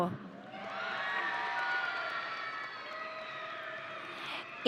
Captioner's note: audience cheering